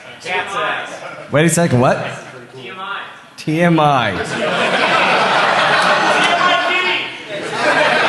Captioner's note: applause